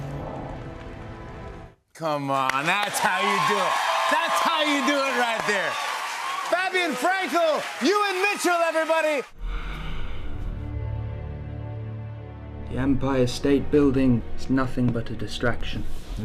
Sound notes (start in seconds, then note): 2.9 cheers and applause; 9.3 dramatic music plays